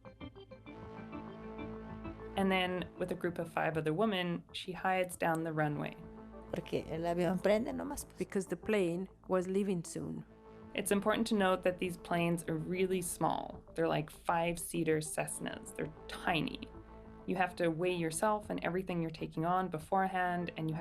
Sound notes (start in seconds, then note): 0.7 lively music; 6.5 speaking in foreign language